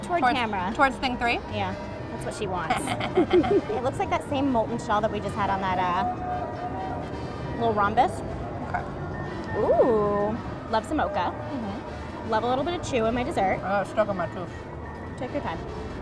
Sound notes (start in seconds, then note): 2.8 laughs evilly